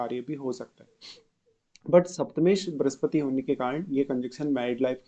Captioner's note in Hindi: नाक से की जाने वाली आवाज़